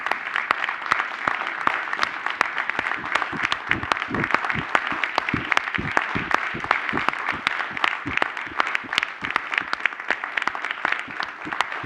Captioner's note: applause